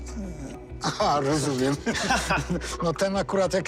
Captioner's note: laughter